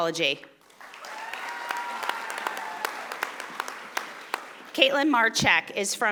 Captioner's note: audience applauding and cheering